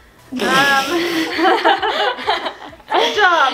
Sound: laughing

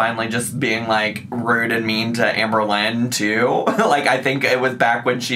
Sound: laughs

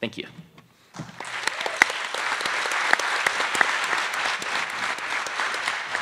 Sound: attendees applauding

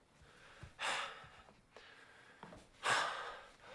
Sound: sighs

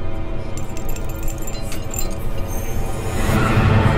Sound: chains rattling; dramatic music; eerie whispering

